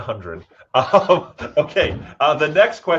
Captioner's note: both laughing